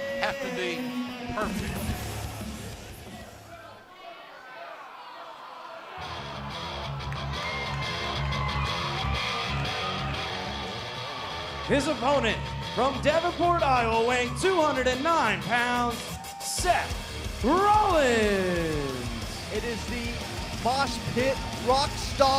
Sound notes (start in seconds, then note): 7.8 crowd cheering